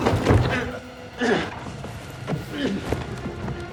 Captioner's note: grunting